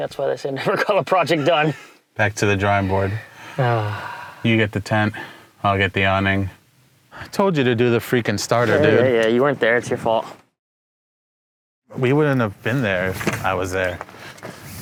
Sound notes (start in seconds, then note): 2.7 sighs